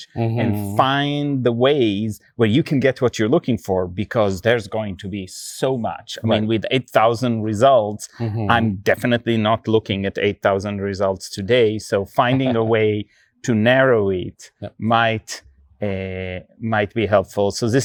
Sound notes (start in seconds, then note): 12.2 chuckling